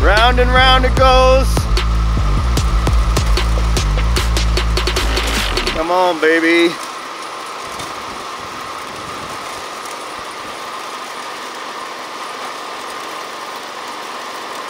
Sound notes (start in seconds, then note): 2.6 high energy music; 7.3 roars